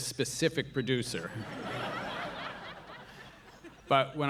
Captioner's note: audience laughing